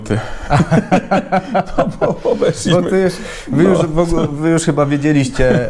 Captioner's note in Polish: śmiech